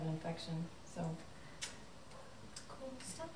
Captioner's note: lips smack